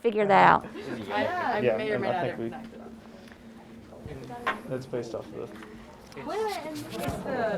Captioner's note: students chatting